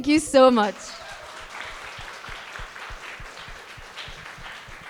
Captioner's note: audience applauding